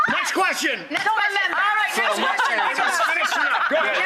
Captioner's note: laughing